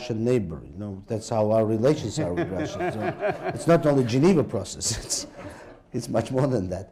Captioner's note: laughter